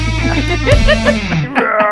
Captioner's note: laughs